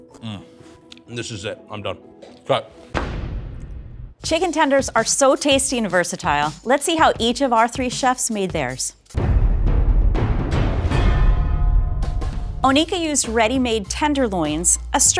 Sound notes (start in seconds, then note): 2.9 loud thud; 9.1 ominous music